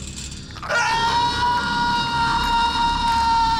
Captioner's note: Jacob yells